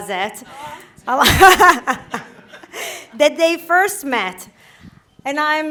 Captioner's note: laughter